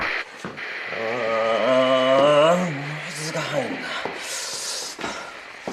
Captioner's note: moans